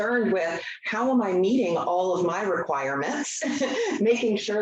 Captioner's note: chuckles